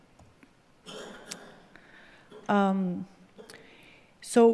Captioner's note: audience member coughing